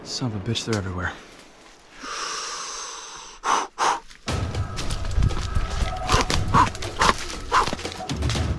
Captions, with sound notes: Son of a bitch, they're everywhere. (inhales then exhales) (excited music)